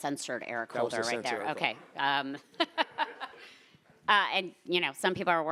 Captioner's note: laughing